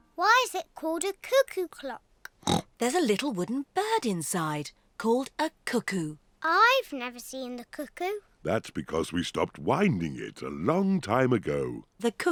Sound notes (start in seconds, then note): 2.4 oinks